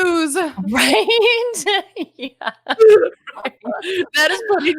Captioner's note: laughing